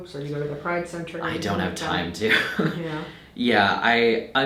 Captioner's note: laughing